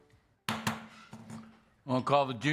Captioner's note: gavel